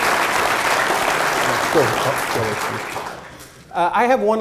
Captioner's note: applause drowns out voice